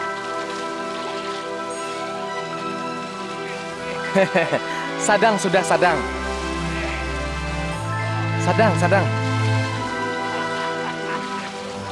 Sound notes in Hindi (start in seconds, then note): 3.4 हंसते हैं